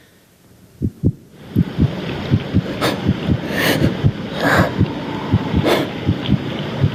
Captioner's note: heart beating; heavy breathing